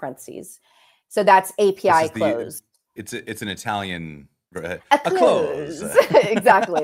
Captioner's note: laughter